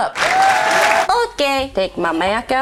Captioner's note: audience applauding